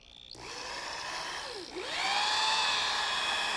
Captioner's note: drill revs